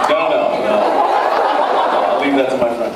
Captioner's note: laughs